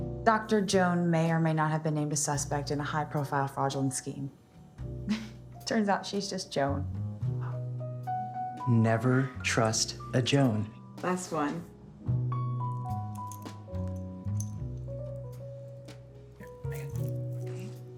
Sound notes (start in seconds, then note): 4.9 laughing; 12.9 gentle jazz music